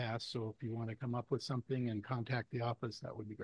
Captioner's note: none